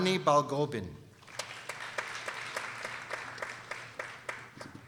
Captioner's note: people applauding